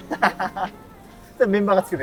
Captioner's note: laughing